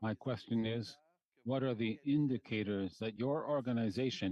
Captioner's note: speaking French